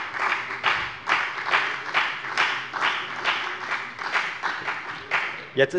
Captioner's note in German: Beifall bei der FDP und der SPD